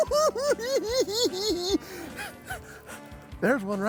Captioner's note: cackling